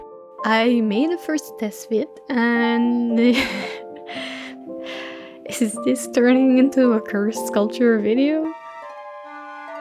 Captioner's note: laughs